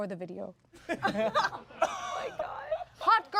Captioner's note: everyone laughs